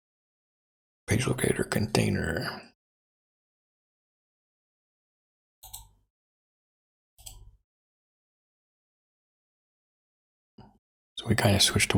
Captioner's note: blank Audio; blank Audio